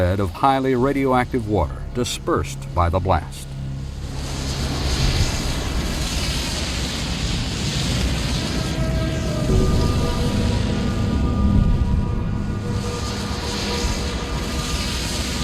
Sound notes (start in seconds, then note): 4.1 dark foreboding music; 4.1 explosion whooshing